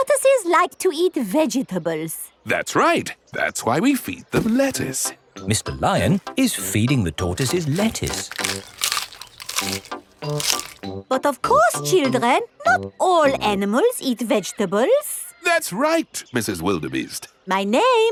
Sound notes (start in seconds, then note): 9.0 munching